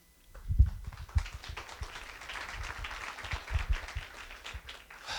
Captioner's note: applause